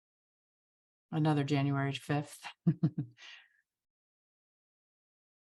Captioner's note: chuckles